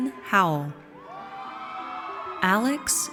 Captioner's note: audience cheers